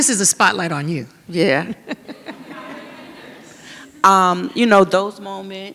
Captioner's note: all chuckle